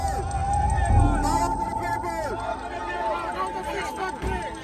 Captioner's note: crowd chanting